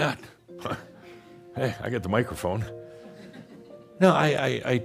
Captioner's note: a few chuckles